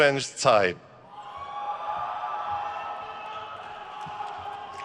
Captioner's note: crowd cheers